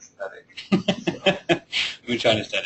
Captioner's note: laughing